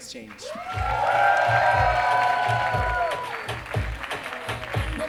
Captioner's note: audience cheers and claps